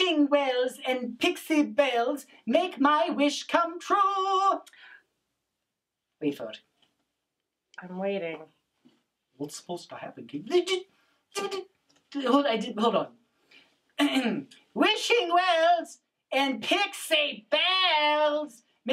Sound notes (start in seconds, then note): 10.9 shushes; 14.0 clears throat